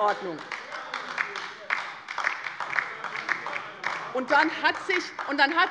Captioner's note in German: Beifall bei der LINKEN - Zurufe von der CDU